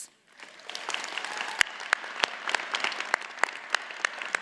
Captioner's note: audience applauds